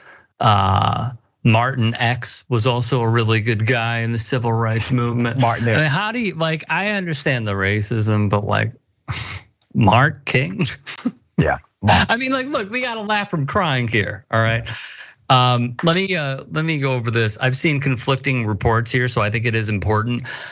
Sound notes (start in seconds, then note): 9.1 laugh